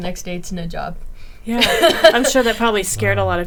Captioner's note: laughing